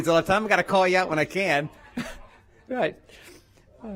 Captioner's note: laughter